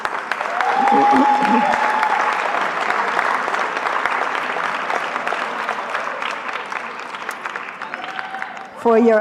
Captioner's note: applause